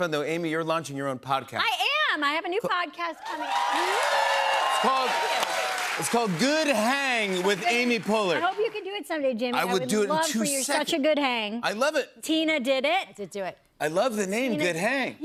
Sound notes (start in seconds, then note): 3.2 cheers and applause